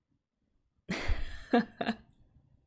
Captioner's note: laughs